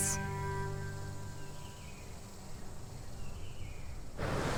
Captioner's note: wildlife chittering